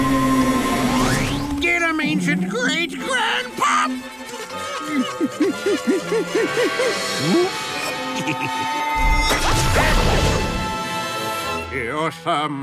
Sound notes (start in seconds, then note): 7.6 chuckles